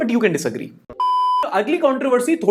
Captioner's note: beep